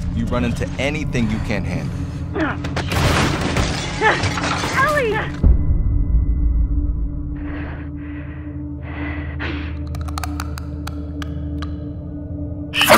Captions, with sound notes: You run into anything you can't handle... Ellie! [HEAVY BREATHING] [CLICKING]